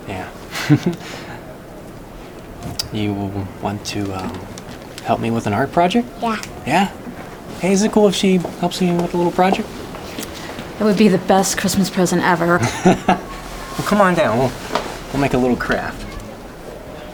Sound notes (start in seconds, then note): 12.1 laughs